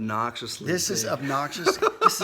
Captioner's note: laughs